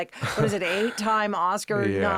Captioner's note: Josh laughing